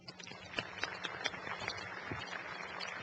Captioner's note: applause